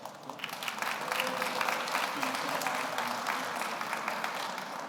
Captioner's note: audience applauds